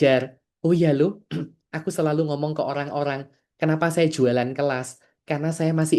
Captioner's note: berdehem